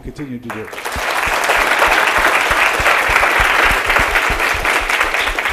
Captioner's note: audience applauding